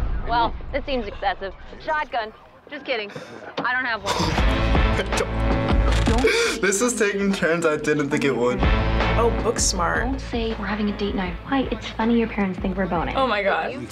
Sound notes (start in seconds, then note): 4.0 chuckles